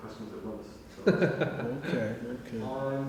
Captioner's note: laughter